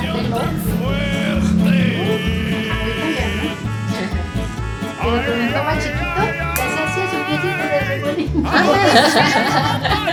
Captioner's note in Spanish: risas